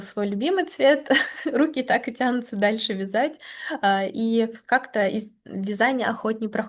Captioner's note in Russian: смех